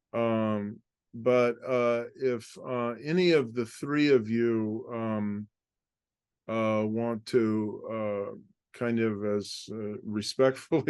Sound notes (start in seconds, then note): 8.0 laugh